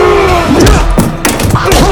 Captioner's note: exclaims; knife drops